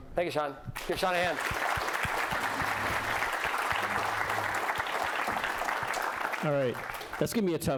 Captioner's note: applause